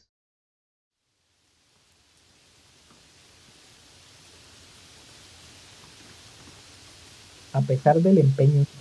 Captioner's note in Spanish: sonidos de lluvia